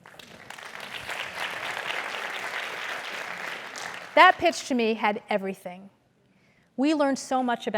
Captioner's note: applause